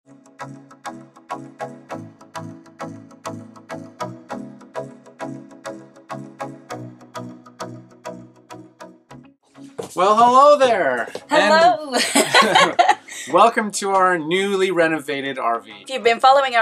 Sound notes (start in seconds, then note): 0.9 upbeat music; 11.9 laughter